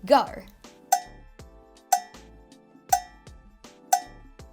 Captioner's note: timer ticking